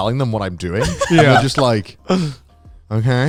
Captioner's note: laughs